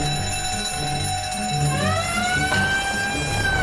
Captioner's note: alarm bell; police siren; helicopters